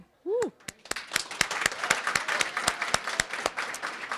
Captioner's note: crowd applauding